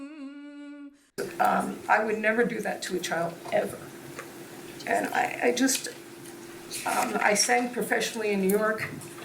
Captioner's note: humming her spiritual tunes